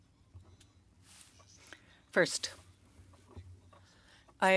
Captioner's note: speaking French